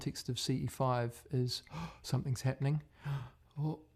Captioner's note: lapání po dechu